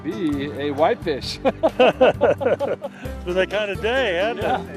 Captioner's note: laughing